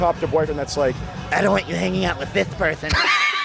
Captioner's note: demonic voice; wheezing laughter